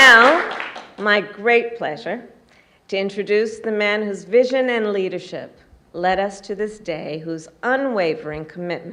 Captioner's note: applause